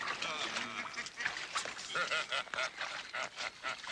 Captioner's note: men laughing